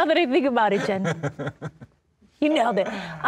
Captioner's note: laughing